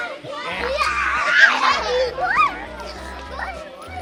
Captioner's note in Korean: 웃음소리